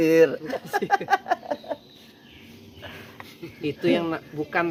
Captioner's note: laughs